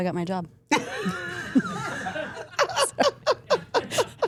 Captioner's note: everyone laughing